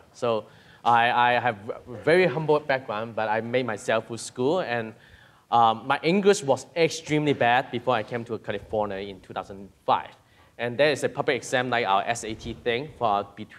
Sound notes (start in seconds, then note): none